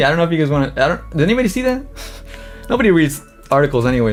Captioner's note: laughs